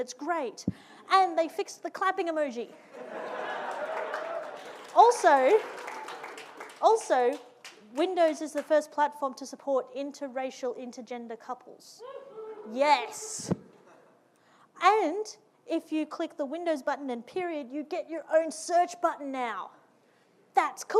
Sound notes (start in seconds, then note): 2.8 audience laughing; 12.2 audience cheering